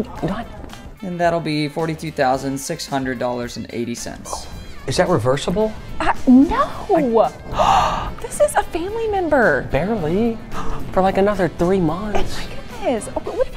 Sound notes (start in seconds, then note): 7.5 gasp